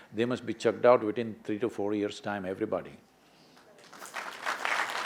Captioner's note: applause